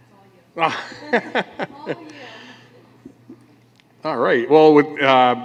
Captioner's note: laughter